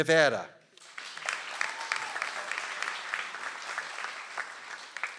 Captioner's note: audience applauds